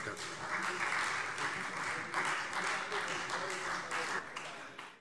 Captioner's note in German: Beifall